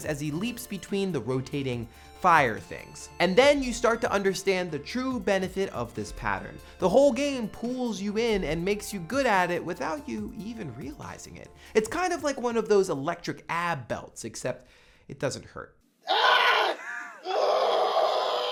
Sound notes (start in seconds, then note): 16.0 scream; 16.0 groan